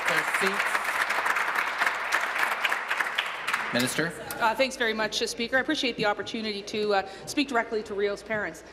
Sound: applause

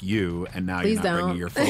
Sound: laughs

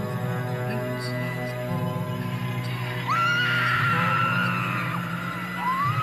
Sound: Maud screams

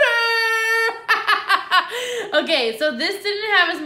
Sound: laughing

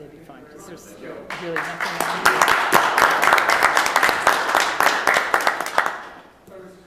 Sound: applause

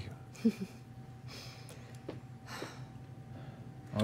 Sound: sighs

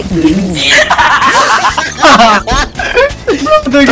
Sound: laughter

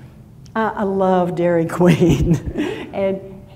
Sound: laughs

